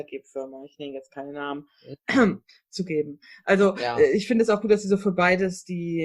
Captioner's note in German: räusper